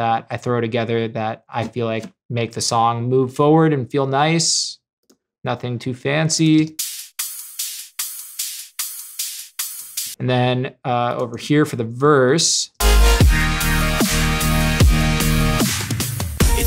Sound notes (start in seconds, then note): 5.4 keyboard clicking; 6.6 electronic music; 12.8 electronic music